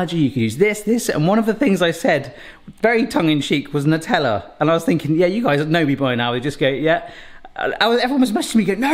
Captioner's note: none